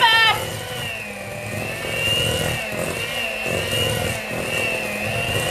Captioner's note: mixer whirring